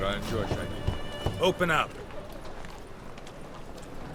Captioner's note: knock